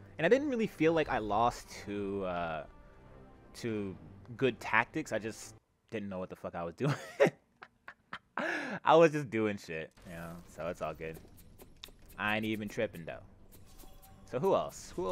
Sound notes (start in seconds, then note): 6.8 laughter